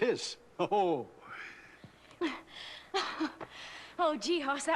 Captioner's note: laughs